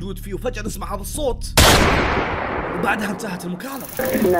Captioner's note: gunshot